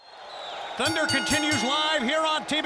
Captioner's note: bell ringing